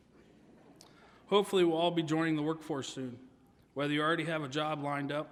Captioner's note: none